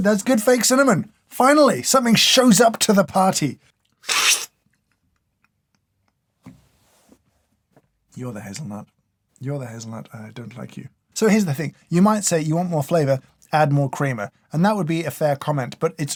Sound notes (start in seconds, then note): 3.8 slurp